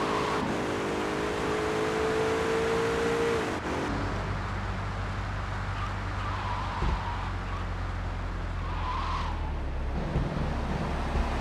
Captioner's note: car engine roaring